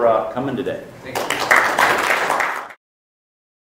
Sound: applause

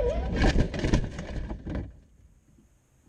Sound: crash

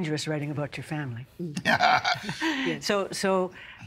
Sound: laughing

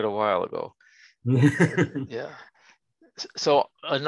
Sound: chuckles

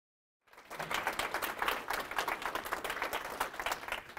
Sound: crowd clapping

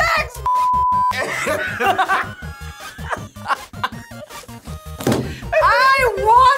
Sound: both laugh

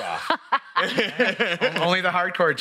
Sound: laugh

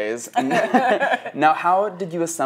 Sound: both laughing

